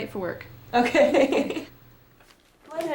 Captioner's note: laughing